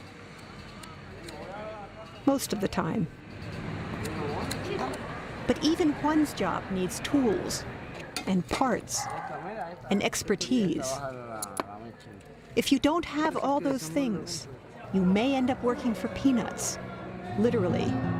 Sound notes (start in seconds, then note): none